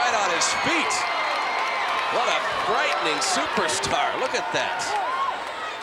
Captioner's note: applause